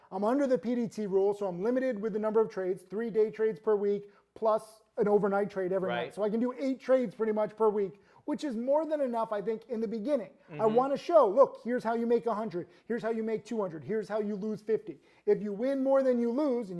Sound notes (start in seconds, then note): none